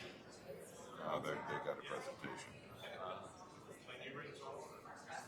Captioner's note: people chattering